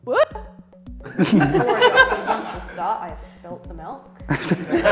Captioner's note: laughter; laughter